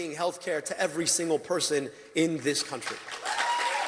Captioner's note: applause